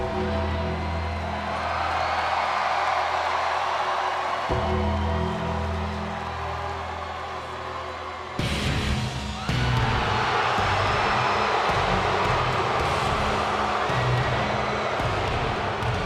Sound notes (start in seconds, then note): 0.0 ominous music; 1.2 audience cheers; 10.7 upbeat music; 11.7 audience jeers